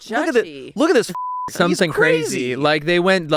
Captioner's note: beep